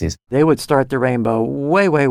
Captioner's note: recorded Voiceover